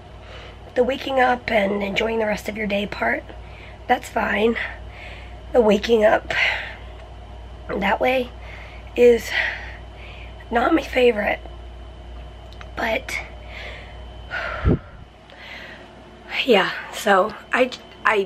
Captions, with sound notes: the waking up and enjoying the rest of your day part, that's fine. Waking up that way is not my favorite, but.. (deep breath) Yeah, so I